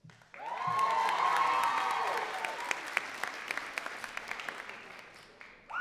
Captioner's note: crowd cheering and clapping